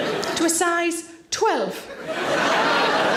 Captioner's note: audience laughing